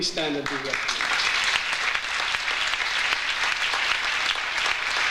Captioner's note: audience applauds